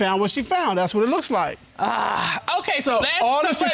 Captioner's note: grumbles